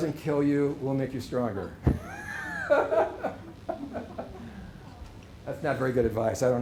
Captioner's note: laughter